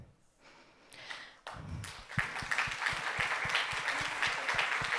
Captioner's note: audience applauding